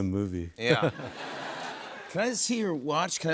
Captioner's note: chuckles